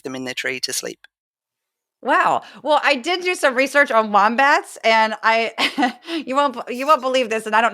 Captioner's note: laugh